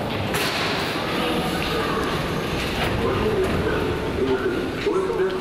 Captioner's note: PA announcement in native language